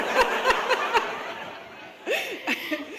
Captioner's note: laughter